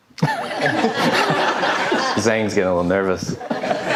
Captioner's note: audience laughing